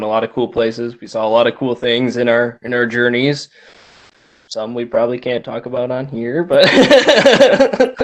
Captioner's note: laughter